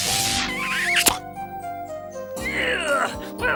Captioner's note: kissing